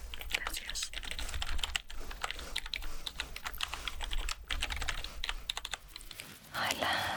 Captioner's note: typing sounds